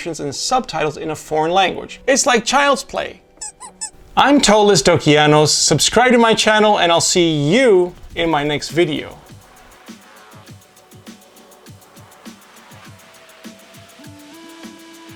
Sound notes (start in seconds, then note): 3.4 squeezy sound